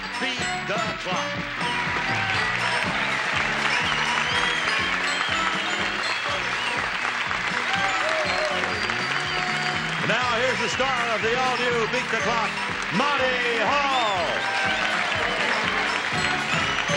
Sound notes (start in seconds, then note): 4.1 audience claps and cheers